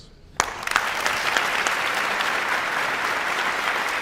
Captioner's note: audience applauds